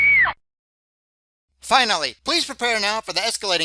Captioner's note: sound of woman screaming